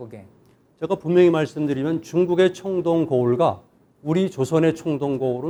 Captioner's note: speaking in Korean